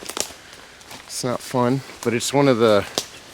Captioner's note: twigs cracking